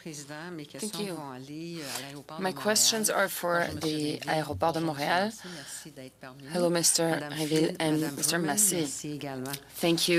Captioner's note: speaking French